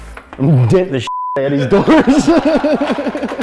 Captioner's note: beep; crew laughing